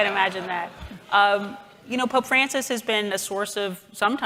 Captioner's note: chuckles